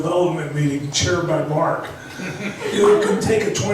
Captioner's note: laughs